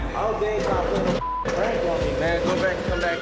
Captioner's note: beep